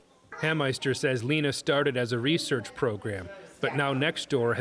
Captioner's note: voice-over